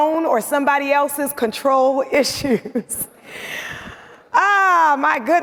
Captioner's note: chuckles